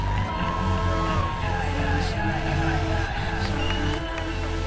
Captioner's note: people cheering